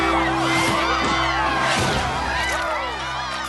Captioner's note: cheers; crash